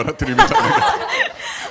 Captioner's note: laughs